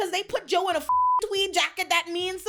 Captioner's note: beep